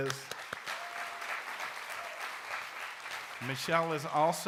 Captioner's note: audience applauds